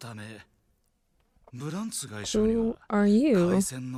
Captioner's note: foreign language